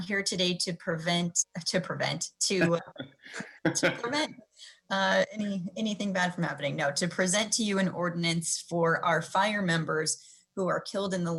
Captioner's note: laughter